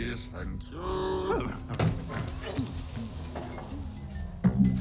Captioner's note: Truthsayer hums to himself as he retreats to the kitchen